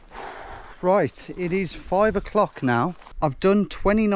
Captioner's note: sighs